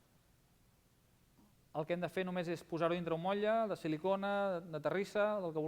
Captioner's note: non-english speech